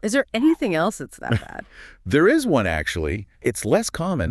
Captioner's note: chuckles